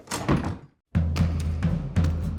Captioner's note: door closes; fast-paced music